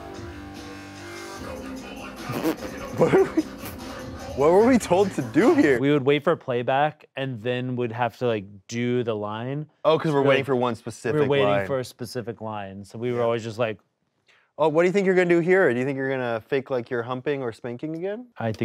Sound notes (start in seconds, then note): 0.2 intense music; 2.2 both laugh